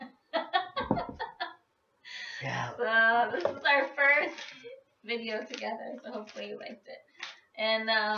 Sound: laughing

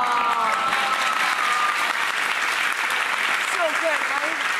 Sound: audience clapping

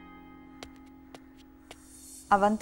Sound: footsteps

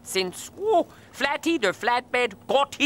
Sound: trucks mumbling

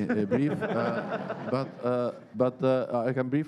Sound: laughter

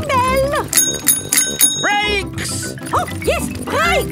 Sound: rings bell

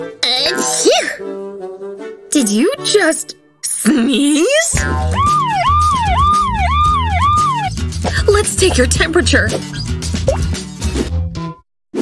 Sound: muttering angrily

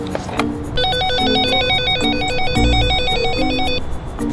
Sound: phone rings

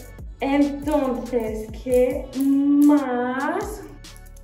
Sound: speaking Spanish

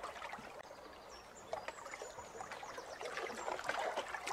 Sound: water sloshing

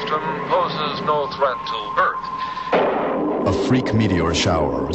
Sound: lightning and thunder

